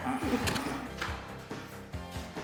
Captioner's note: lols